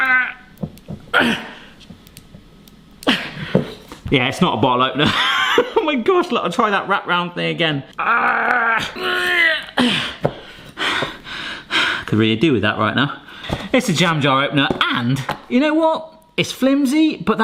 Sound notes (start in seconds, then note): 1.1 grunts; 5.0 laughs; 8.0 grunts; 9.7 pants